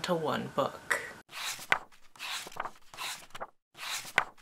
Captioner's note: pages turning